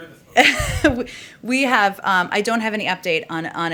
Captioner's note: laughs